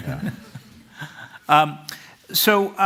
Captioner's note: laughter